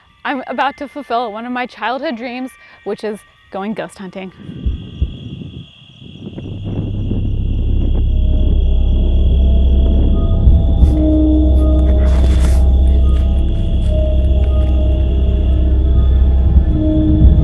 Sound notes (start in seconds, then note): 4.8 wind rustles; 8.5 foreboding music; 10.5 crickets chirping